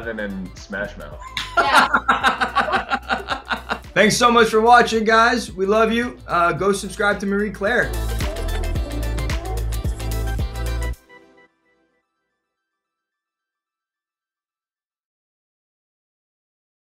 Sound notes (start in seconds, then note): 1.3 laughing; 6.6 upbeat music